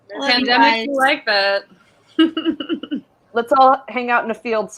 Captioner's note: laughs